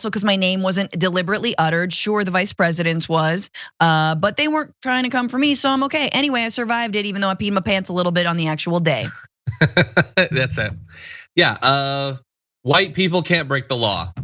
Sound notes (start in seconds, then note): 8.9 laugh